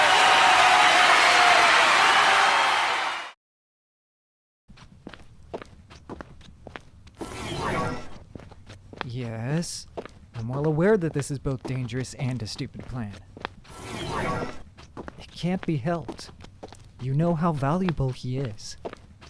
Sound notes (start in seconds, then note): 4.8 footsteps permeate the air as light humming rings; 13.4 light humming rings once more; 19.1 light humming rings once more